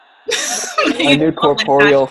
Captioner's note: laughs